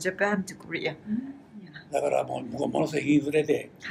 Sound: foreign language

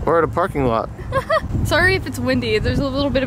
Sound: laughs

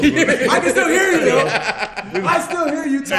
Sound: laugh

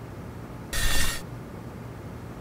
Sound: drags across room

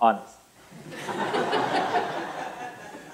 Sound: laughter

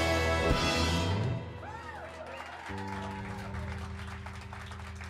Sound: cheers and applause

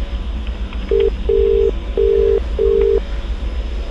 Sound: phone ringing

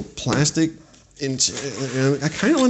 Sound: stutters

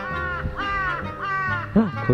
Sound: crows

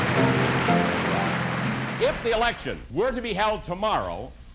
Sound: applause

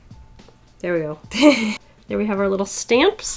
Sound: laughs

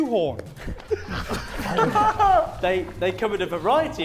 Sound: Sidemen laughing

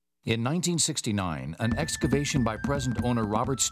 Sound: voiceover

